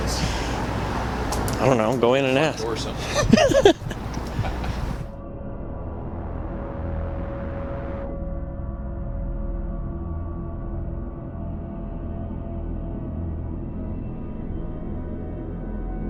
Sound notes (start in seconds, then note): 2.6 laughs; 6.1 suspenseful music